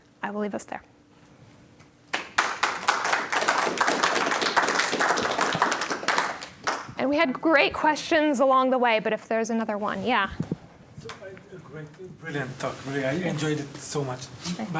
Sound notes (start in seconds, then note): 3.9 applause